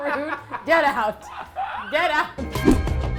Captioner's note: laughing